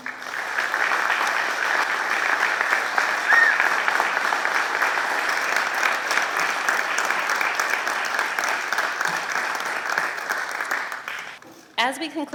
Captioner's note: applause